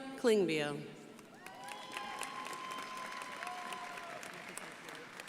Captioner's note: crowd applauding